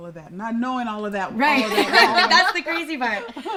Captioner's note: laughs